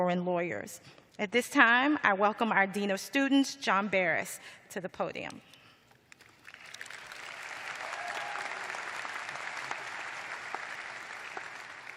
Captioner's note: applause